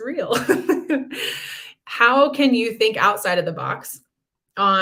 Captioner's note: laughter